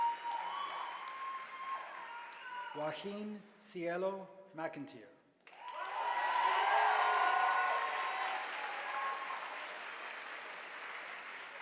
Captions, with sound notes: Juaqin Siero McIntye, (audience applauding)